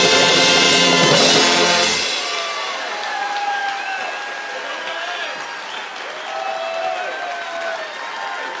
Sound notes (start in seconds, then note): 3.4 audience cheers